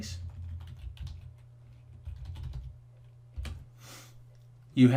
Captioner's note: keys typing